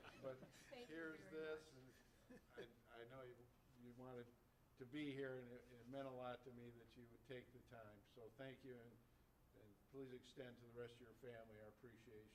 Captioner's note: laughter